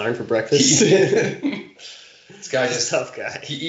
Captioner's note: chuckling